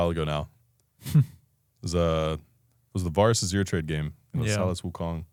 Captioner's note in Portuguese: risos